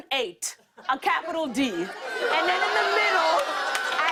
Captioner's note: audience groans